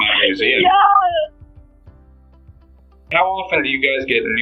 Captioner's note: laughing